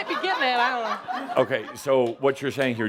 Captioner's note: some laughter